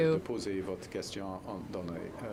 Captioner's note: speaking french